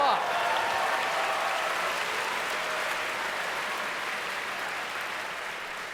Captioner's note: audience cheers